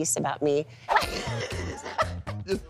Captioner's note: laughing